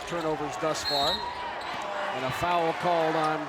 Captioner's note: whistle blows